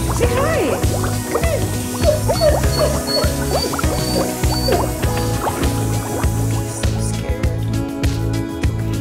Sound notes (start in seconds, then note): 1.9 whimpers